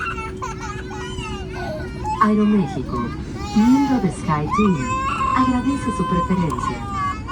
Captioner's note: baby is crying